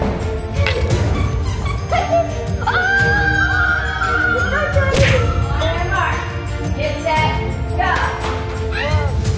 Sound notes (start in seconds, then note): 2.5 excited shouting